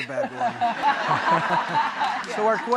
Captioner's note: laughter; applause